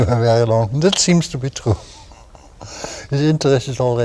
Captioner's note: laughter